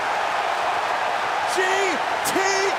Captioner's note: crowd cheering